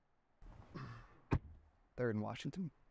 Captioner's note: door closes